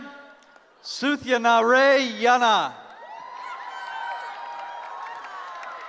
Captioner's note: cheering